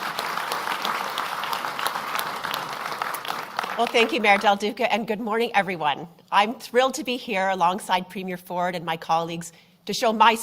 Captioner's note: applause